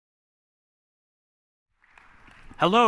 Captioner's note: applause